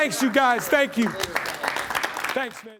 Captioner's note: applause